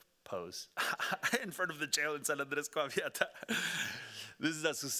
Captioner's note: laughing; speaking Spanish